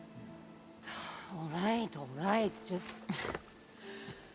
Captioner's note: sigh